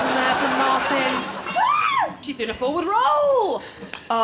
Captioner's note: Stevie screams